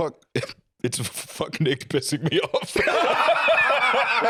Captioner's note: laughing; both laughing